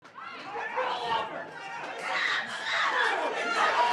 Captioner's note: audience chatter